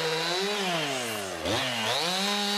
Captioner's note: chainsaw noises